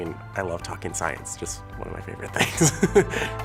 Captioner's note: laughs